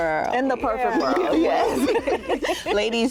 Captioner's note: laughter